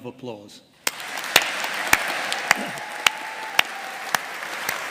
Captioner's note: all applauding